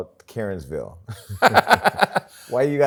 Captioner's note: laughs